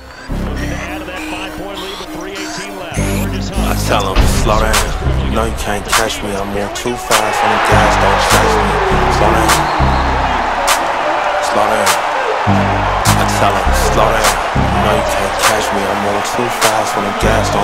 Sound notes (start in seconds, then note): 10.3 crowd cheering mixed with the song